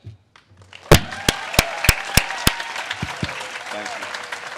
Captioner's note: audience cheers and claps